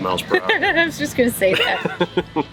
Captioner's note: laughing